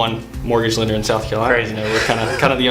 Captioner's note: laughs